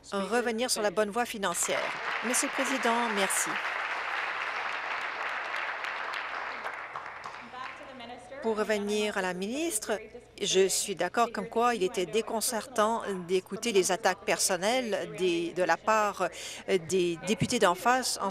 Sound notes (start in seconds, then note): 4.3 applause